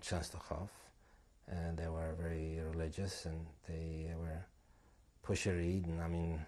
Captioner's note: non-english